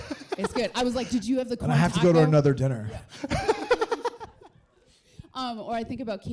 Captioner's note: laughs